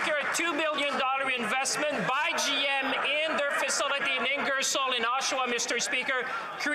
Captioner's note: some Applause